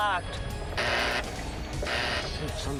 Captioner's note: buzz